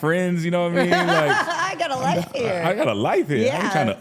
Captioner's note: laughs